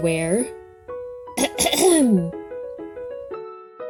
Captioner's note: Koha clearing throat